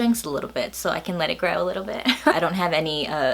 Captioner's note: laughs